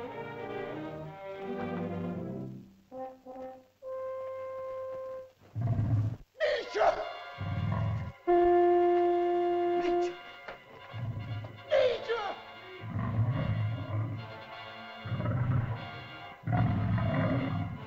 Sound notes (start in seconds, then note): 5.3 dinosaur growls; 6.4 man cries out; 7.8 shell toots; 9.7 man speaks in caveman language; 11.6 man cries out; 12.7 dinosaur growls; 14.3 suspenseful music; 14.8 dinosaur growls